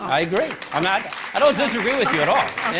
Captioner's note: applause